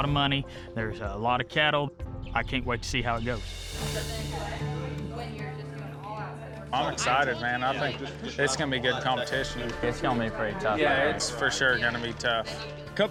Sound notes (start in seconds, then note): 3.1 all chattering